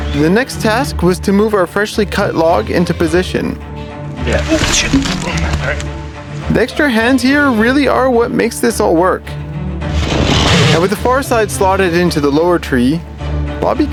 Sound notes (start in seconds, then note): 4.2 crunching